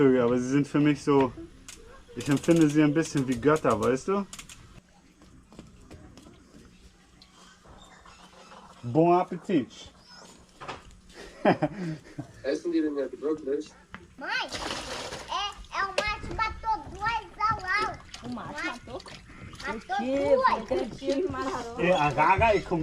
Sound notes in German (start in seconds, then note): 11.2 gelächter